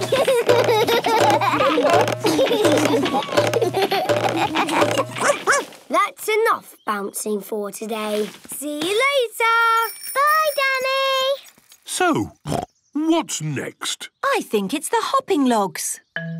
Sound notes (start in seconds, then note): 0.0 all laugh; 5.2 barks; 12.4 snorts